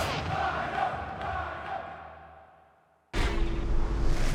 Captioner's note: fans chanting